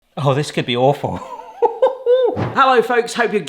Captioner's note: laughs